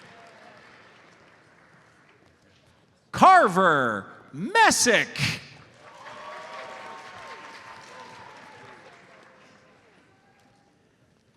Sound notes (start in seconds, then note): 5.8 audience cheers and applauds